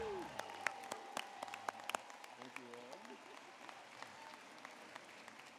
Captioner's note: applause